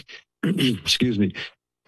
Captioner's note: clears throat